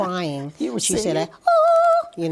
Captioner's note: vocalizes